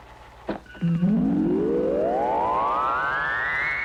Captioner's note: radar pulsing